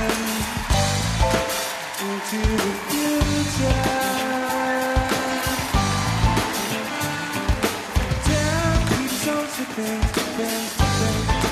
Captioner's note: band playing; cheers and applause